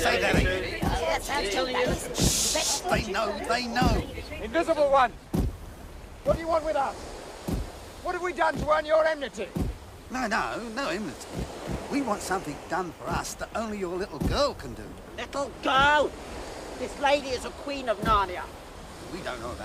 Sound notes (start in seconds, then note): 0.0 stomping feet; 7.4 stomping feet